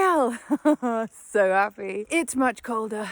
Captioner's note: laughs